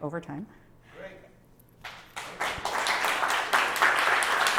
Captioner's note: applause